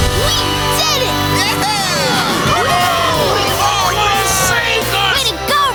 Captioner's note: cheering